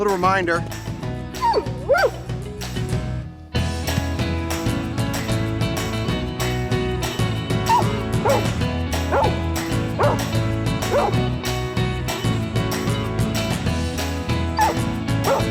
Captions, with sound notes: Little reminder. (whining) (barking)